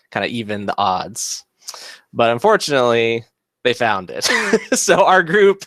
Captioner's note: laughs